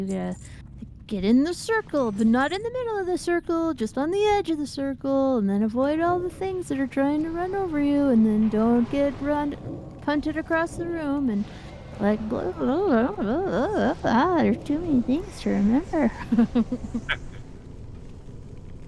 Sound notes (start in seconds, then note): 12.8 mumbling; 16.2 laughter